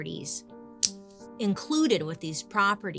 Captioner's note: hand clapping on knee